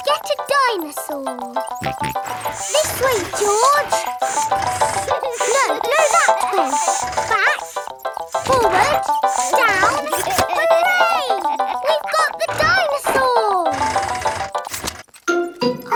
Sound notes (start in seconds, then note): 1.8 george snorts